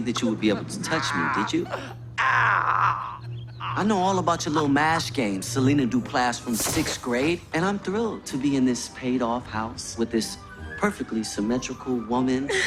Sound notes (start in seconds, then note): 0.7 groans